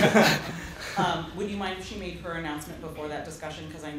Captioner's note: laughter